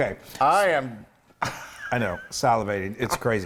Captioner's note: laugh